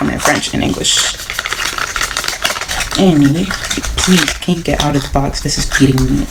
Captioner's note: crinkling paper sounds